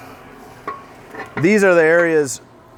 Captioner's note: clanging